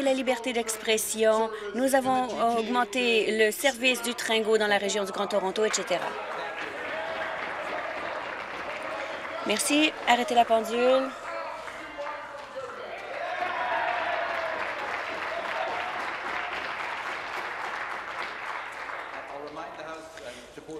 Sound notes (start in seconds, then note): 0.1 applause; 10.0 voice trailing; 18.8 applause